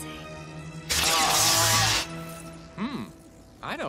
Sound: screaming

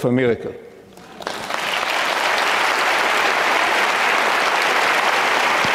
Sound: audience clapping

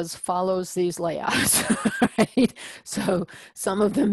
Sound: laugh

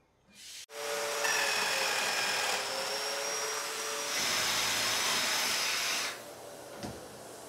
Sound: saw brattling; drill whirring

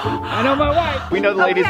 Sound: male Voice

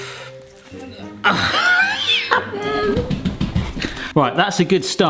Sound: laughing and stamping feet

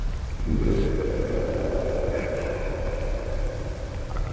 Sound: ominous raining ambience; monster growling

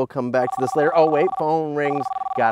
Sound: phone rings

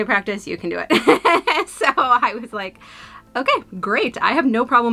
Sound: laughs

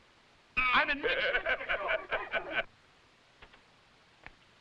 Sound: all laughing

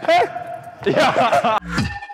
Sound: haha

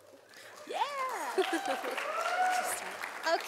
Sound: sound of applause from audience

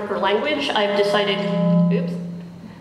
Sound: microphone static

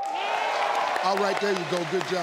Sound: crowd cheering

